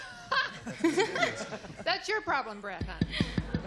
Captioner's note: laughs